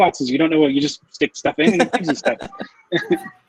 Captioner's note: laughs